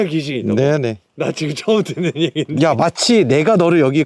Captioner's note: laugh